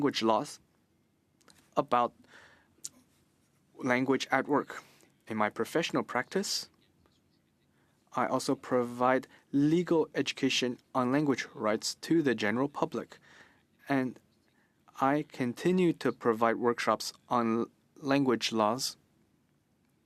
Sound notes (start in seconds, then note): 4.6 speaking in French